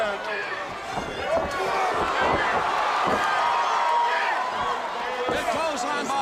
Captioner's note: crowd cheering